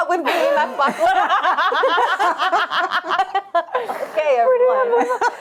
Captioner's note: laughter